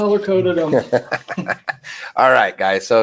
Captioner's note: people laughing